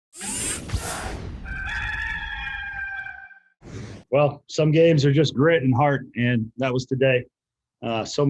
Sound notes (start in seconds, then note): 0.1 machine whirring; 1.4 rooster crowing